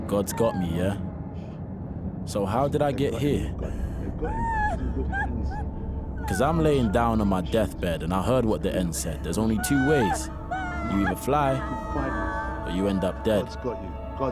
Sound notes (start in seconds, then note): 4.1 crying continues